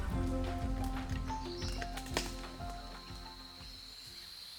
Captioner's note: birds chirping